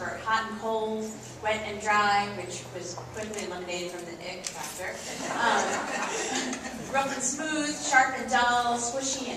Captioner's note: laughs